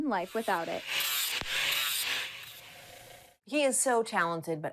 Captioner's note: saw buzzing